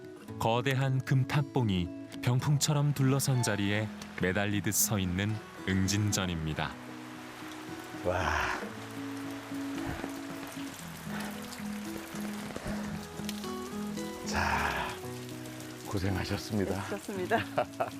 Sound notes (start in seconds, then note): 4.1 suddenly, the rain became stronger